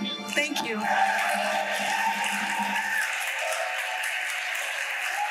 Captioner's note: audience applauding